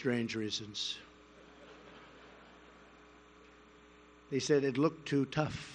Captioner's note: laughter